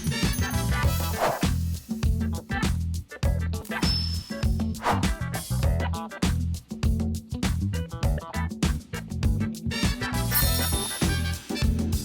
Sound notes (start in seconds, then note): 1.2 air whooshing; 4.0 upbeat music continues